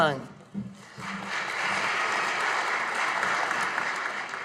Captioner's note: audience applauding